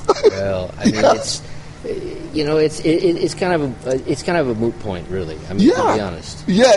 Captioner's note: laughs